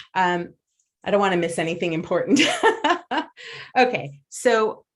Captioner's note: laughs